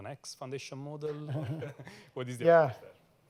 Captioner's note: laughter